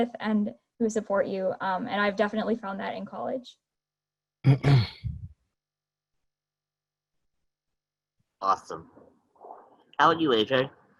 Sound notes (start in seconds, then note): 4.4 clears throat